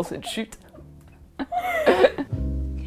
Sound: laughs

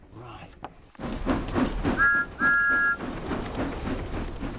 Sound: chuffing and engine whistles

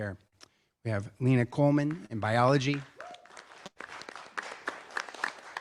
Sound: applause

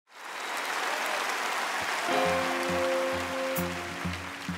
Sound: audience applause

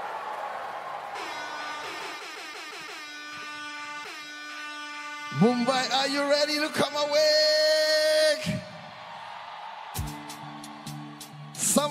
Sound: cheering/Applause

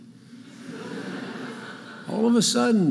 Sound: audience laughing

